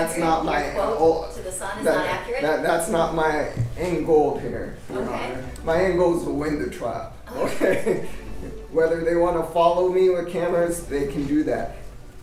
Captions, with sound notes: That’s not my end goal here. -OK My end goal is to win the trial, OK? [Laughs] Whether they want to follow me with cameras, they can do that.